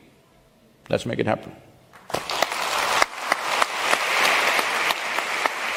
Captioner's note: applause